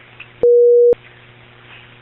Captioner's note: beep